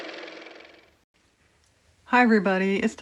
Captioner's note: car motor